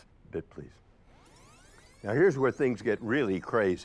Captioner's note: videotape squelching